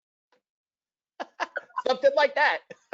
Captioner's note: laughs